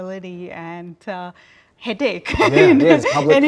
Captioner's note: laughs